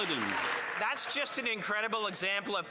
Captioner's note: applause